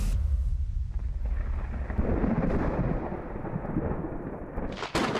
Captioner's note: thunder rumbling